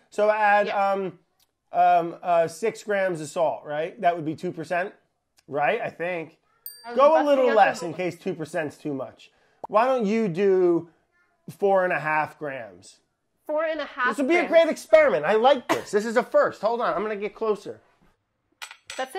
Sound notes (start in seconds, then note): 6.6 bell dinging